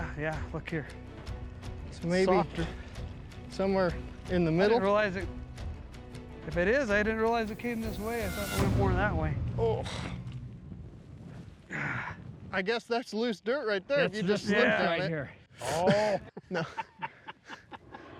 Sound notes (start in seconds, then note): 11.6 grunts; 15.6 laughing